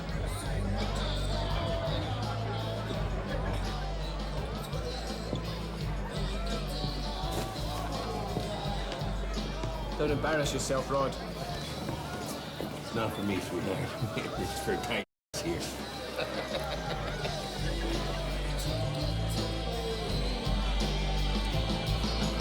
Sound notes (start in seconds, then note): 0.1 rock music playing; 14.1 chuckles; 15.7 laughs